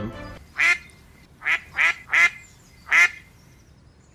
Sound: duck quacking sfx

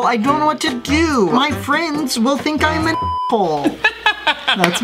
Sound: beep; laughs

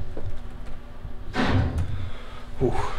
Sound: metal banging

